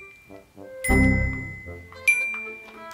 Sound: ding

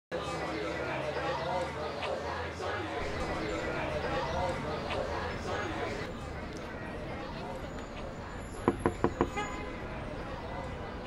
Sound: background Restaurant Noise

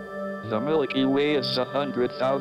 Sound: voiceover

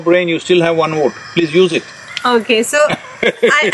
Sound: laughs

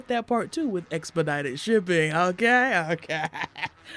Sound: cackle-laughs

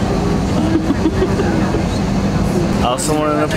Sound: laughing

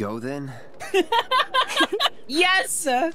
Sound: laughter

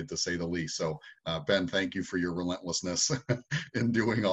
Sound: laughs

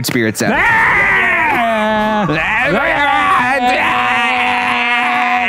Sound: both screaming

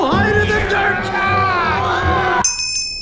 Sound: both grunting

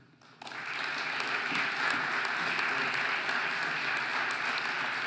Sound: audience applauding

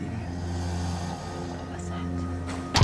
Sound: growling

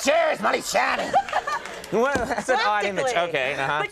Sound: Molly laughing

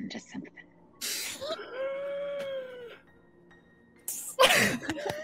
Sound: excited shrieking

